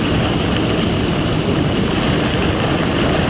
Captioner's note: none